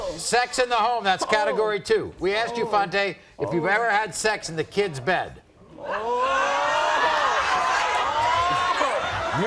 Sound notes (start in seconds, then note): 6.8 audience oohs